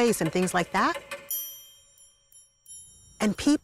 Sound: bell ringing

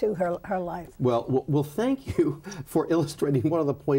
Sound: chuckles

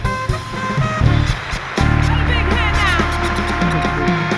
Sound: audience applauds

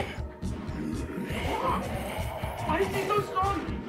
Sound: snarling; Ed grunting

